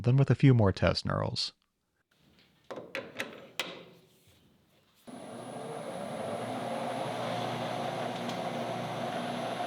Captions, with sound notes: than with a few more test knurls. (tool clattering) (machine whirring)